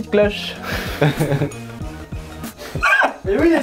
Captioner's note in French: rires